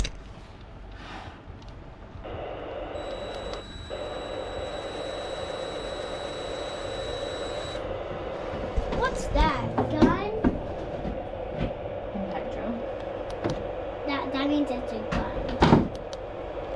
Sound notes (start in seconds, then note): 2.3 radio static; 7.9 a drill